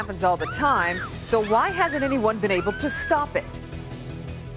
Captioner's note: screaming